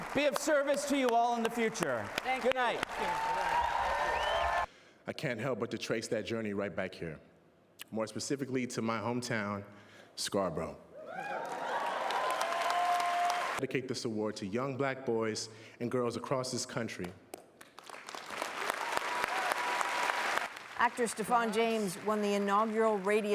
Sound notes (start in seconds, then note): 8.2 cheers and Applause; 17.3 applause